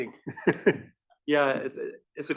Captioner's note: laugh